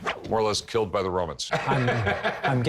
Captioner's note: laughter